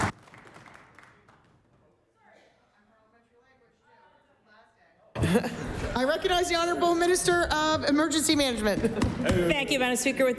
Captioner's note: applause